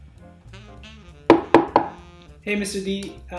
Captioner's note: wood knocking